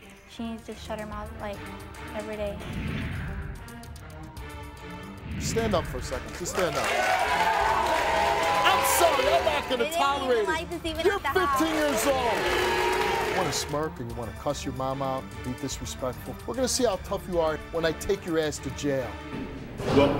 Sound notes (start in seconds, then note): 2.8 dramatic music; 6.6 audience jeering